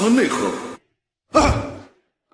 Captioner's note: cough